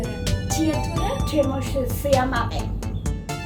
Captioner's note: speaking Georgian